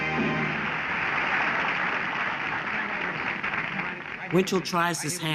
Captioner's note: applause